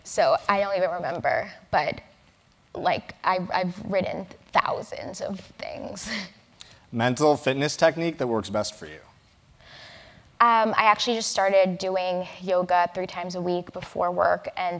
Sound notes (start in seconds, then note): 6.3 laugh